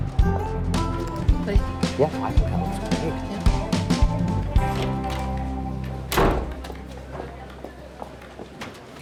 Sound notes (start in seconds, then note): 6.0 door slams